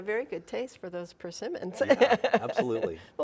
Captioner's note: laughing